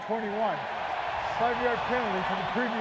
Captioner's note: cheering